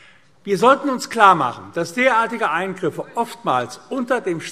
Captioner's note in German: none